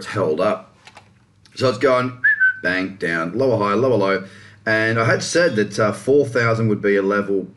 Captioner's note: whistles